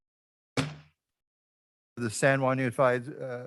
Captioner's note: gavel banging